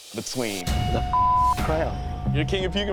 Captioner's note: beep